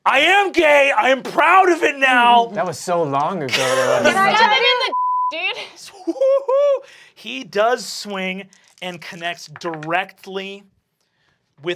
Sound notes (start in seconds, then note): 4.2 beeping; 5.9 whooping